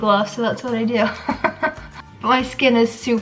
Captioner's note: laughs